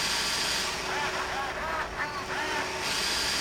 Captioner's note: laughing